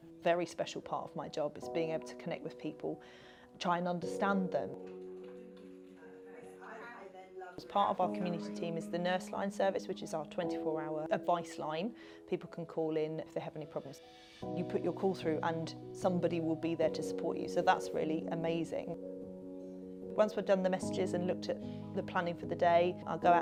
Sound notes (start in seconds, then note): 5.2 background chatter of phone calls